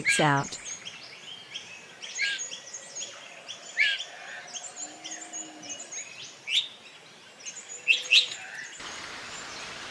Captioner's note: birds sounds and chirps